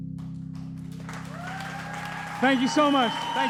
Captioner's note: audience cheers